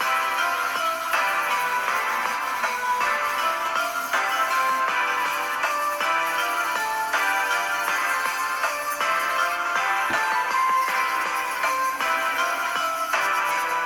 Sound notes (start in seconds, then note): 0.2 christmas music playing; 5.8 dremel buzzing